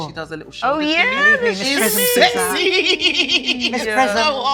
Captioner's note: laughs